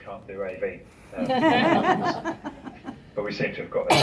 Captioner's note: laughter